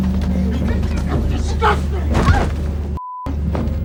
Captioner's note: body crashing; objects crashing